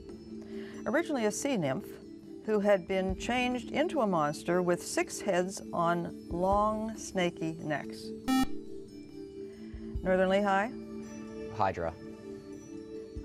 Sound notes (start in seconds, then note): 8.2 buzzer